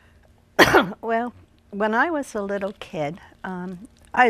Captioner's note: coughing